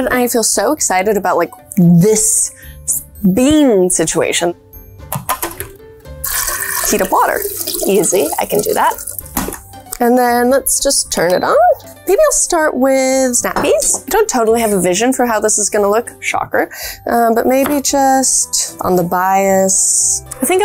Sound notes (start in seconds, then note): 5.1 lid popping; 6.2 water trickling